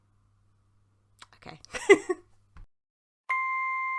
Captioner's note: laughs; music box jingle